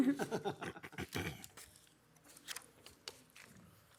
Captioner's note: laughing